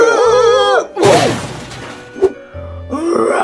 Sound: crash

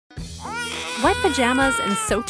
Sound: baby crying

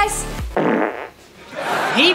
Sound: farting

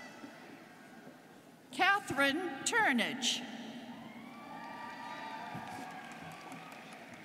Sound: students cheering

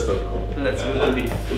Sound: laugh

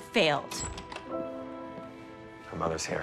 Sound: door opens

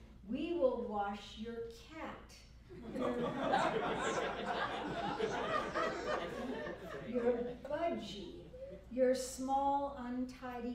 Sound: laughter

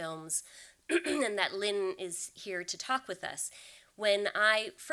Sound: clears throat

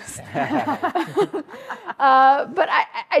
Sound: group laughs

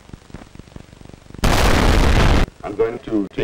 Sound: unnecessarily loud explosion

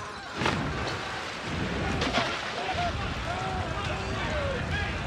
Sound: screaming and yelling; water splashes; explosions

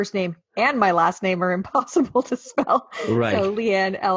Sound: laughing

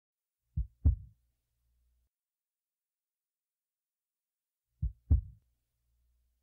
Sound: heartbeat

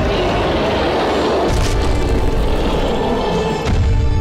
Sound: creature growling; groaning; crushing

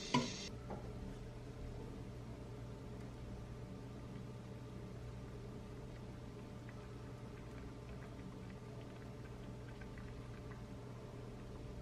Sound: boil

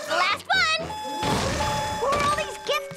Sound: beeping

